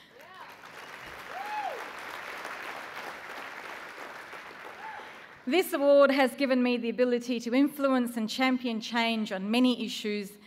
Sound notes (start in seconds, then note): 1.6 applause